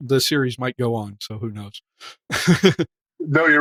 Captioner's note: laugh